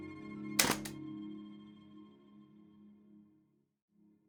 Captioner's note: camera clicks